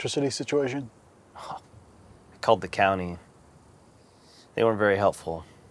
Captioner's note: scoffs